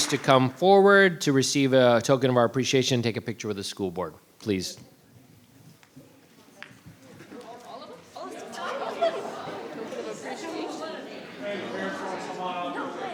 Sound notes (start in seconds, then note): 9.8 group chattering